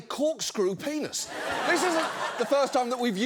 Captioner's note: audience laughs